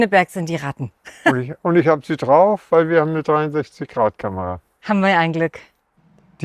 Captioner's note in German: gelächter